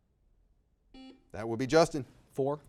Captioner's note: buzzer beeping